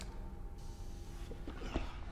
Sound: air hissing

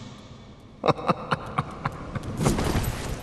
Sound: laughing

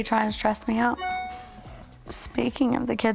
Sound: cell phone chimes

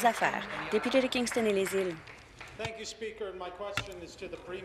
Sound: applause

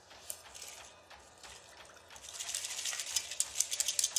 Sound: metal clattering

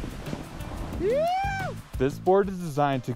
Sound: shouts

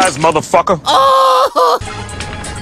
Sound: crying

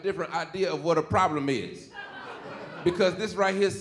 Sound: audience laughing

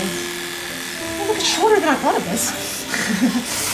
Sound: laughter

